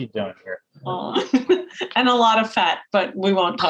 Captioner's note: laughs